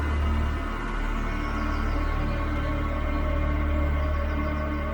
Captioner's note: birds chirping